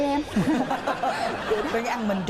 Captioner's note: laughs